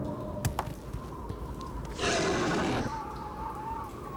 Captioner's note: growls